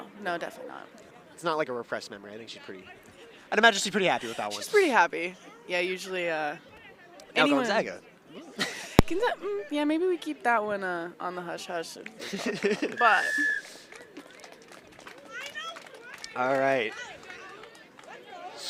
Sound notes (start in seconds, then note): 8.5 chuckles; 12.2 chuckles; 12.9 whistle blows